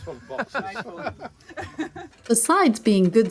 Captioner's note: laughs